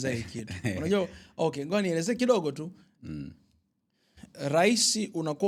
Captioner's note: clearing throat